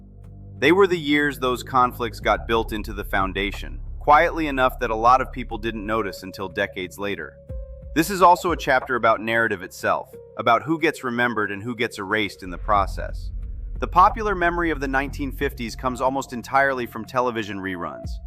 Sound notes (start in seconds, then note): 3.4 thoughtful; 9.9 thoughtful